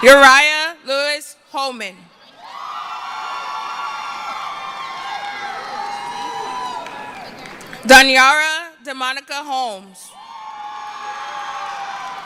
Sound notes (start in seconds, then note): 4.8 cheering; 10.1 cheering